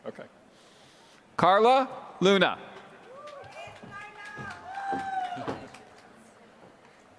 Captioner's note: applause